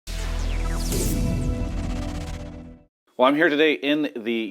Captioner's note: sound effect